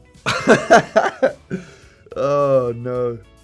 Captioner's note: Harry laughing